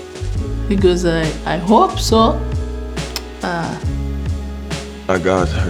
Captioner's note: clicks tongue